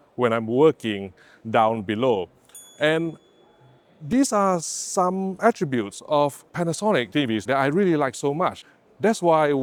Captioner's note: ding